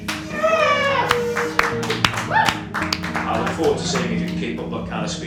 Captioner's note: everyone applauds